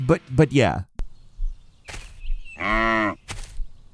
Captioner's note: birds chirping; cow moos